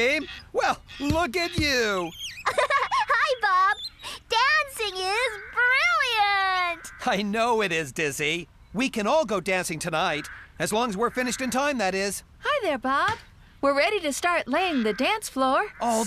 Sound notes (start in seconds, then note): 2.3 giggling